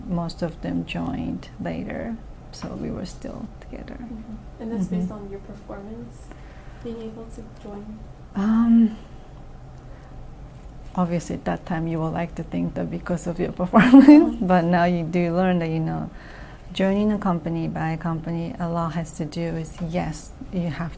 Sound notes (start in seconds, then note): 14.1 laughs